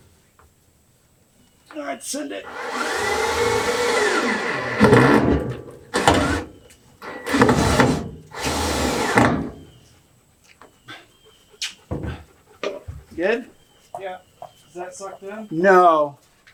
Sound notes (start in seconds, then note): 1.9 strained voice; 5.7 drilling; 7.0 more Drilling